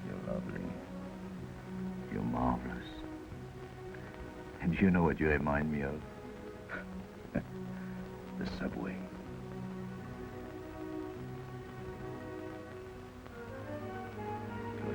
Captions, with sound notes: You're lovely. You're marvelous. And do you know what you remind me of? (chuckles) The subway. (gentle orchestral music)